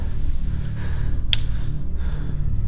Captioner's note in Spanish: Crujido de ramita